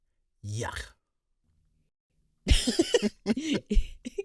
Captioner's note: laugh